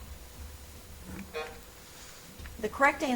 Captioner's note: timer buzzes